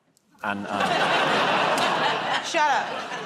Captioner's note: laughter